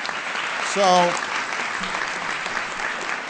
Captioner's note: applause